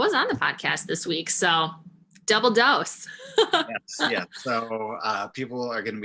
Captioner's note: chuckles